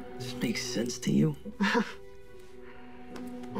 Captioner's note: chuckles